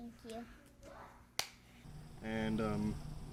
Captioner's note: hands clap